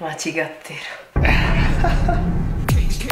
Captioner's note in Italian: Risate